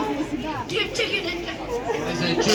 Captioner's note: stuttering